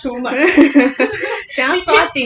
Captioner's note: laughter